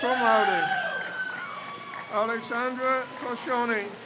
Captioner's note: crowd cheers